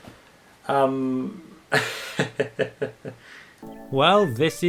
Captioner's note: laughs nervously